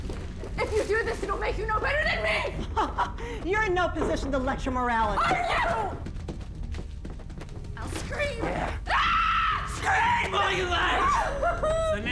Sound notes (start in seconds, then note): 2.5 chuckling; 8.8 screaming